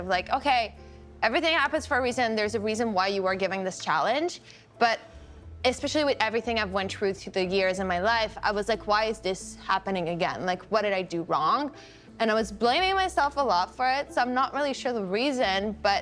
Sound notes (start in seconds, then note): none